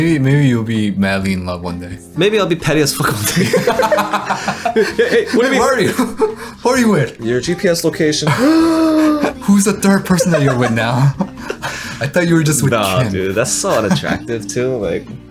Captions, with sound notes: - Maybe you'll be madly in love one day. - Maybe I'll be petty as f* one day. (laughter) - Who are you with? - Your GPS location? (gasps) - Who's the third person that you're with now? I thought you were just with- - Ah, dude that's so unattractive too.